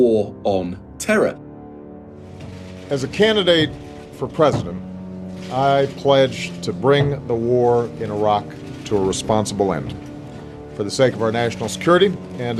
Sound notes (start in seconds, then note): 2.2 soundbite of archived recording